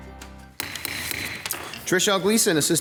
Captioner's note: gavel banging